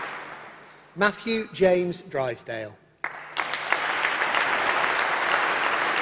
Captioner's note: applause